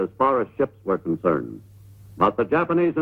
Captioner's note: none